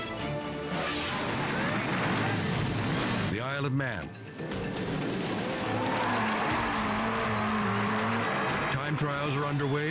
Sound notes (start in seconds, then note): 1.0 engine growls; 5.4 engine revs